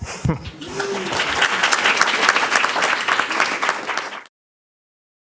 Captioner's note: chuckles; audience applauds